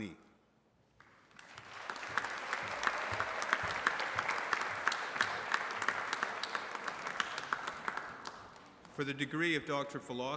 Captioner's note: applause